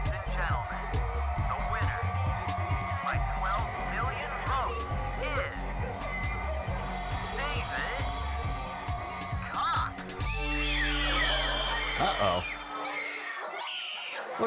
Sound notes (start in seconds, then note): 10.5 girls screaming; 13.3 girls screaming